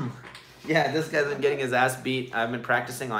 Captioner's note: laughs